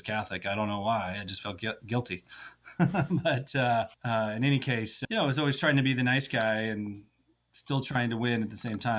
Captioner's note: laughs